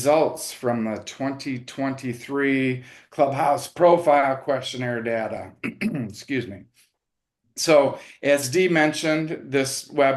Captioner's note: clears throat